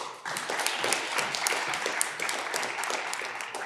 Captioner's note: audience clapping